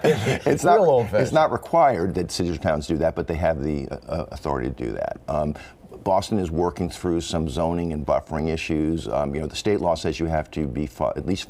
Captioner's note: laughter